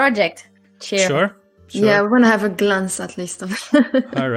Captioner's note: laughs